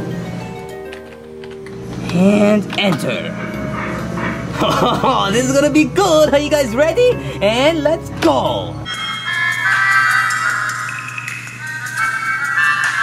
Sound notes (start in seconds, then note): 0.1 reflective music; 4.2 laughing; 9.0 quirky ambient music